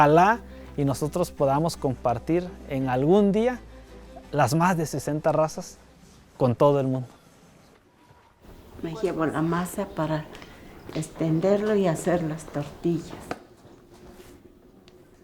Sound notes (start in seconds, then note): 9.8 speaking in foreign language